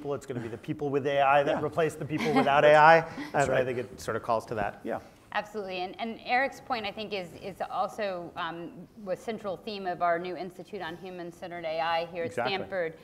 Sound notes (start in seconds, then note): 2.1 laugh